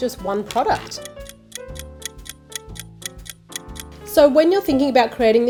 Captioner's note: gentle music; clock ticking